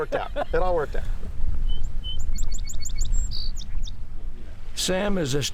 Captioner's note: birdsong